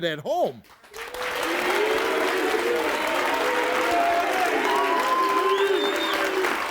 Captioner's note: audience clapping and cheering